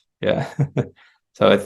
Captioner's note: laughs